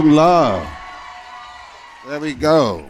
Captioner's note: cheering